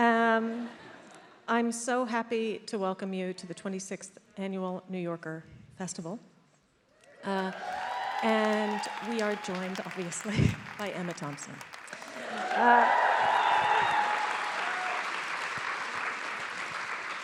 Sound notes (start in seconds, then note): 0.2 attendees laughs; 7.1 attendees applauding; 7.1 attendees cheering; 12.1 attendees applauding; 12.1 attendees cheering